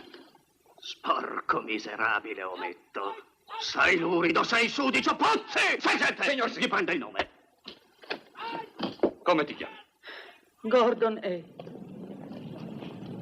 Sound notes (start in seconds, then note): 10.9 sighs